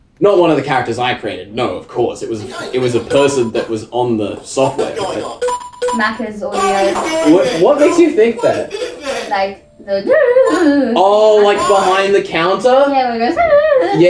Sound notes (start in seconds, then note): 5.4 several beeps; 6.5 crying out; 10.4 imitating beeps; 13.3 imitating beeps